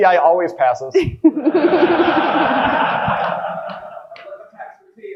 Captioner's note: audience lauging